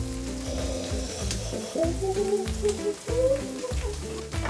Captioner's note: babbles